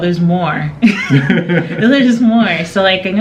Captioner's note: laughing